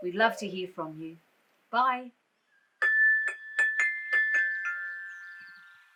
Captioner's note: bells